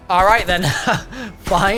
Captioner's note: laughs